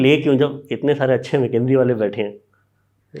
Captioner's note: speaks in Hindi